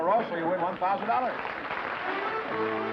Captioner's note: applause